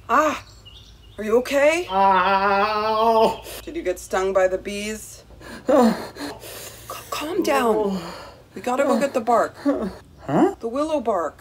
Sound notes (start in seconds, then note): 1.9 groaning